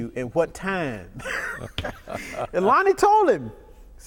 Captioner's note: laughter